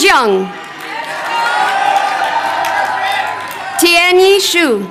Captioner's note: crowd cheering